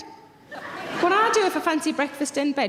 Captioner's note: audience laughing